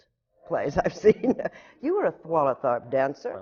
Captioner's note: laughs